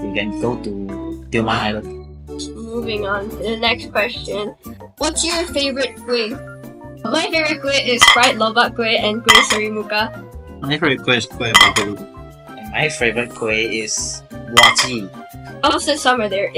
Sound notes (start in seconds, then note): 9.3 very loud plate noise; 9.3 very loud plate noise again; 11.5 loudass plate noise